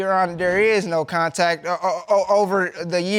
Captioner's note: stammers